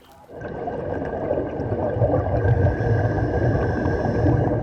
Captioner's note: breathing